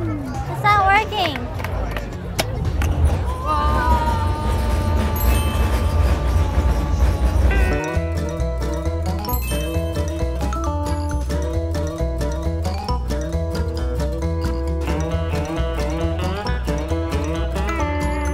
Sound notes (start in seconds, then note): 5.1 bell chiming; 7.9 goofy music; 9.3 bell chiming